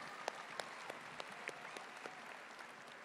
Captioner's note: applause